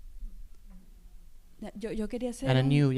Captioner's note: speaking spanish